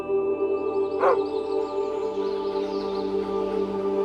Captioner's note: barks